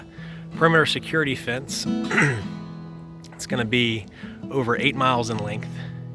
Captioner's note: coughs